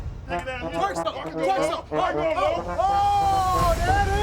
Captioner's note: group clamoring